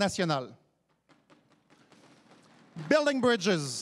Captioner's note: applaudissements